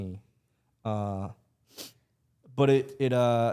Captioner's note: laughs